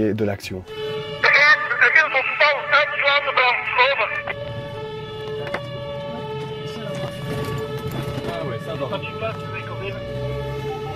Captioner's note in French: sirènes et messages radios